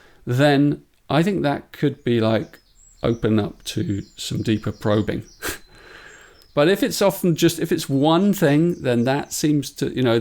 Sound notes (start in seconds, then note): 5.4 chuckles